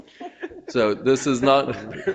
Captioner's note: all laughing